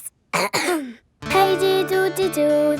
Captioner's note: clears throat